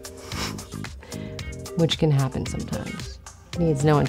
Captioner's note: chuckles